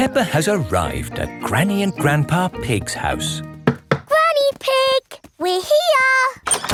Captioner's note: none